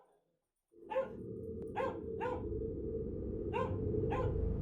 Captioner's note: dog barking